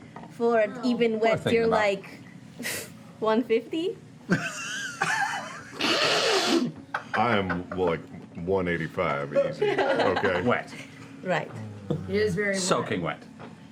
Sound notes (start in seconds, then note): 4.2 laughter